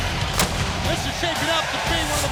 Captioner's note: pyrotechnics explode